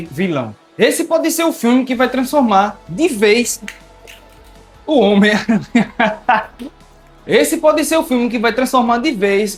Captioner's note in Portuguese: risadas